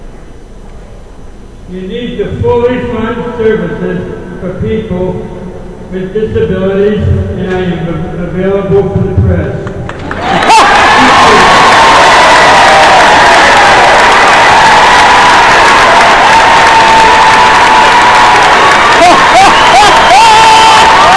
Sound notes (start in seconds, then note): 10.0 cheering